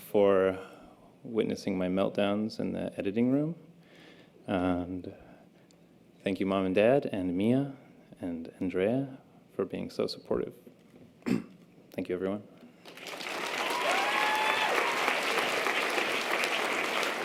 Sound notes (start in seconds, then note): 12.8 audience applause